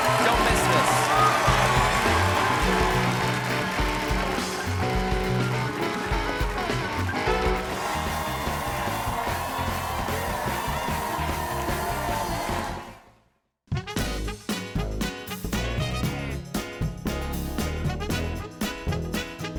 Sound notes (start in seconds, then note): 1.7 band playing; 1.7 cheers and applause